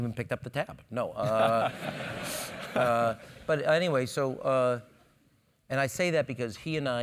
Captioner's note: laugh